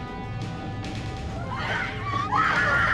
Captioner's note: women screaming